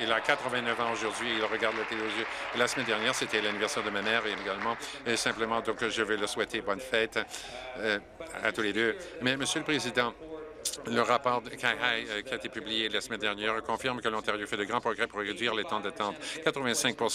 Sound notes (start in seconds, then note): 3.6 applause